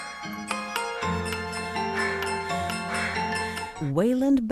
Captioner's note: panting